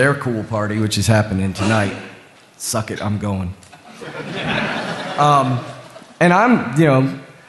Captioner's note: laughter